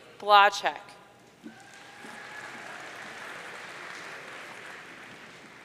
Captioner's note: audience cheering